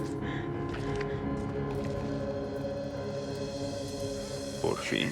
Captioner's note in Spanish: Sollozos